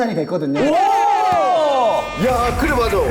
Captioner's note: exclaiming